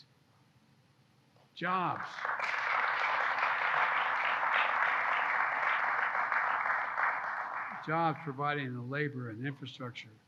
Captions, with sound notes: Jobs. (Applause.) Jobs providing the labor and infrastructure